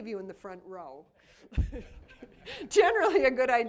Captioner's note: laughter